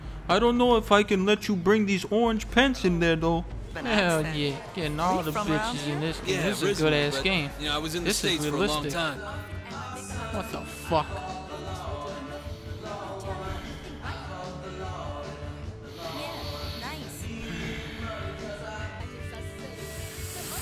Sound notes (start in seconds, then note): 12.5 sighing; 17.2 sighing intensifies; 19.7 deep, shaky breathing